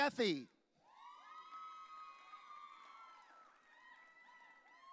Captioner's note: audience cheering